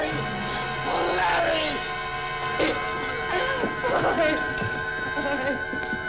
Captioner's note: sobbing